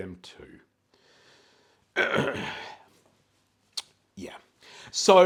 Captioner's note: clears throat